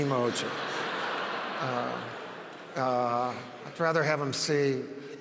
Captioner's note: audience laughs